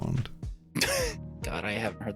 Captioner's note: laughing